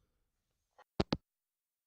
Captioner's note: hangup